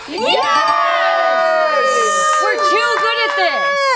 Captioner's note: group cheers